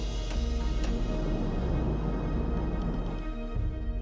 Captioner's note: crashing waves